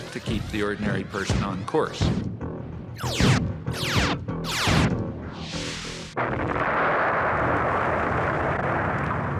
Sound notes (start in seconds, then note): 3.1 space weapons whooshing; 6.1 explosion booming